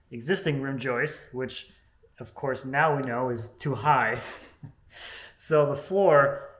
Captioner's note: laughs